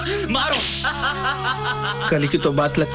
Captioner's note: Shiva laughs